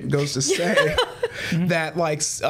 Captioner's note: laughs